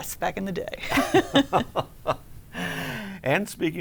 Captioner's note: laughing